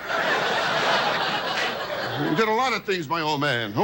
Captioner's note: audience laughs